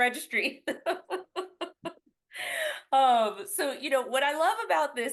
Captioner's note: laughs